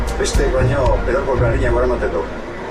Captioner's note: reporter speaking foreign language on TV